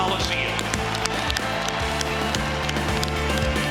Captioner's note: cheering